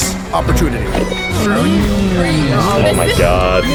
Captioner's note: overlapping chatter